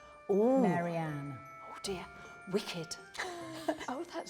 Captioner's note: both chuckling